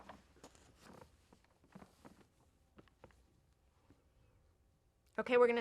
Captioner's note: papers rustling